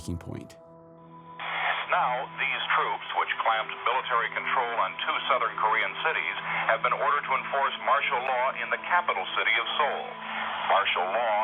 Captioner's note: soundbite of archived recording